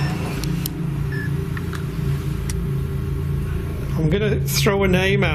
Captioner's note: beeping